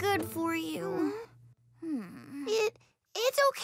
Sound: Hogi sighs

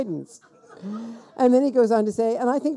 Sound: people laughing

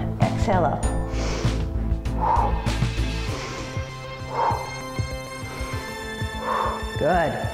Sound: breathes

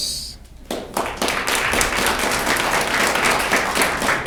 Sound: audience clapping

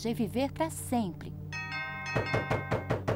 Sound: doorbell rings, pounding on door

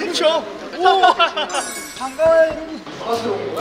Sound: laughing

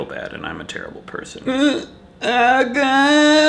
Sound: begins crying

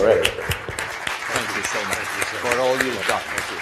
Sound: applause

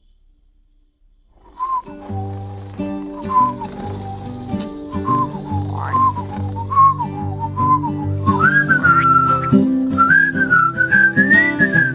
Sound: whistling

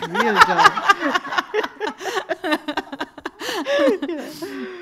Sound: everyone laughing

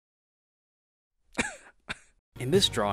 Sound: cough

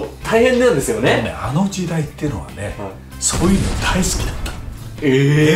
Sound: explosions

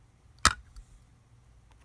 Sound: thud

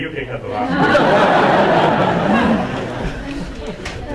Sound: audience laughing

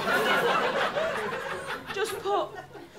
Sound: laughter

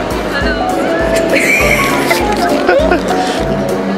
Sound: laughing

